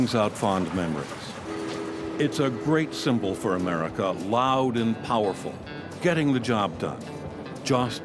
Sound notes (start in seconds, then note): 1.4 train honking